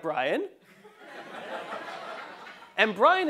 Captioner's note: laugh